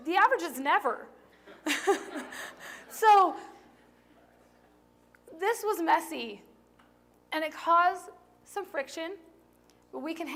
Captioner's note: laughter